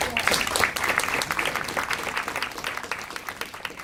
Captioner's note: applauding